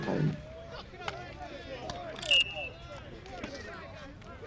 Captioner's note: background chatter